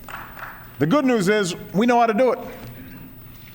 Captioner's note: applause